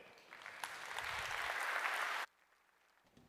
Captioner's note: applause